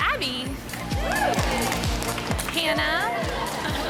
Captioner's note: cheering